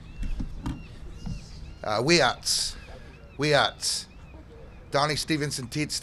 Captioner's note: Muckleshoot language spoken